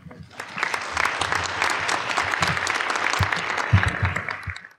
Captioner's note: applause